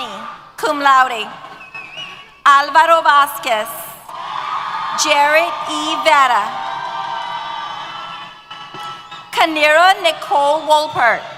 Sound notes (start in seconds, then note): 7.1 cheers